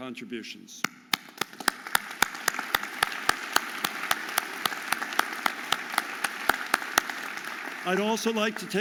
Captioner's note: audience applauding